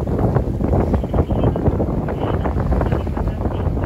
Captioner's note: radio message